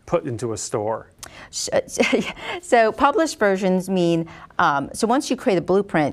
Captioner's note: laughs